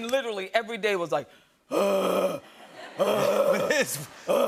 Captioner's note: breathing deeply